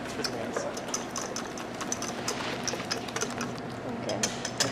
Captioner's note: metal whisking